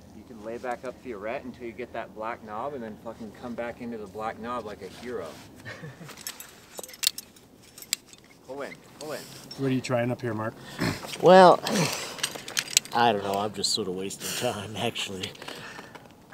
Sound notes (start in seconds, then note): 5.6 laughs; 6.0 gear crackles